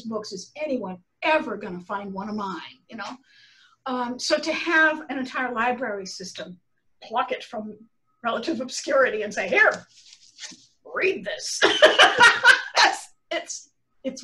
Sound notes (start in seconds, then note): 11.6 laughter